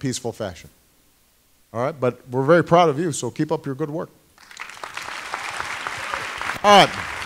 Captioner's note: applause